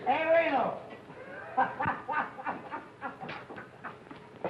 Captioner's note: happy laughing